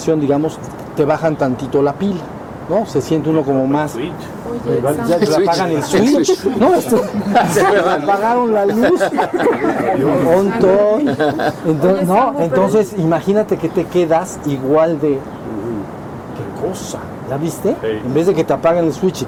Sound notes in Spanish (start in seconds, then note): 10.6 risas